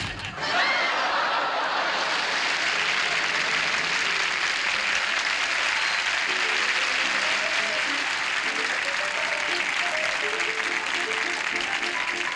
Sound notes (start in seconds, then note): 0.3 laughter; 1.8 applause